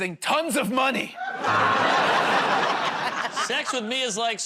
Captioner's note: laughter, buzzer